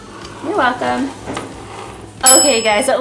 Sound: ding

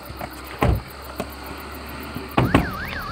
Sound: car door closed sound; car moving sound

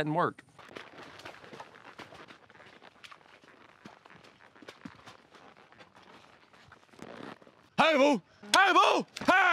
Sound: water sloshing

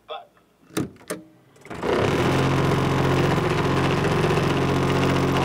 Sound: Sugazap machine whirring

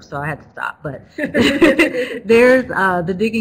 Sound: they both laugh

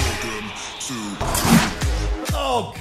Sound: dunk

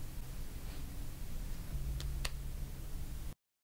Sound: soft slap

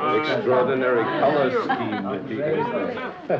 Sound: group chattering

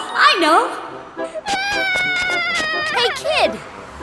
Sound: crying

